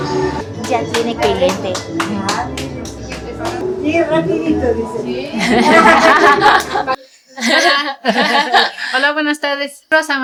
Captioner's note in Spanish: risas